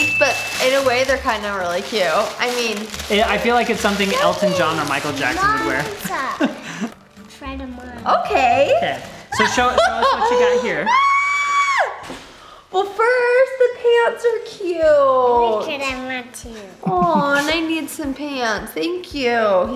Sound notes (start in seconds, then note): 9.4 laughs loudly; 11.3 squeals